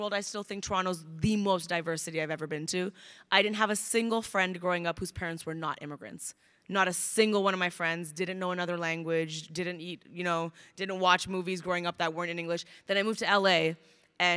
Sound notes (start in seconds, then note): none